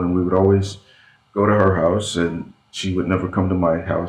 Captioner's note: none